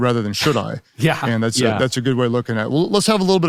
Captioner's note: laughing